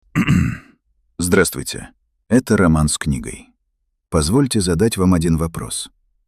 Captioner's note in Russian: откашливается